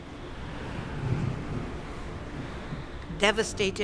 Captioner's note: wind howling